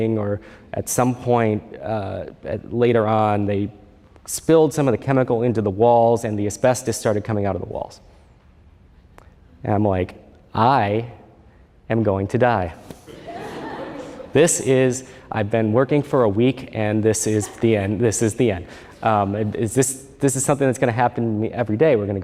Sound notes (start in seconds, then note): 13.0 laughter